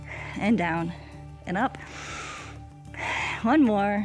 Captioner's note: inhales and exhales